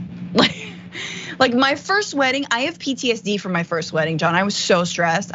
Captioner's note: laugh